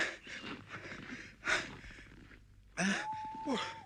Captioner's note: breathes heavily; wheezes